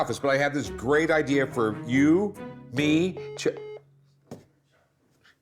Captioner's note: line beeps